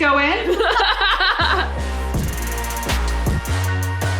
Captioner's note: laughing